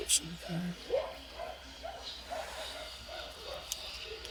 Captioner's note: dogs barking